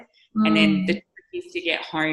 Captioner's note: microphone cutting out